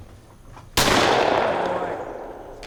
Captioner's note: shot banging